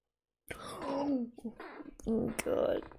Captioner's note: gasps